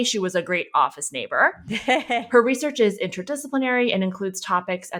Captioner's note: laughing